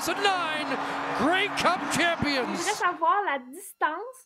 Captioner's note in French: acclamations